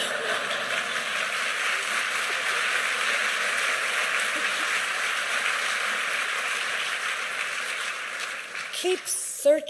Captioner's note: applause